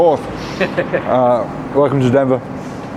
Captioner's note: laughs